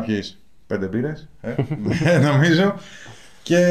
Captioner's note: laughs